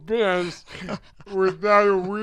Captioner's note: chuckling